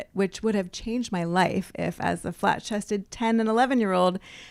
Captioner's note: none